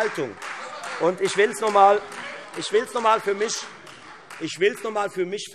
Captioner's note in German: Beifall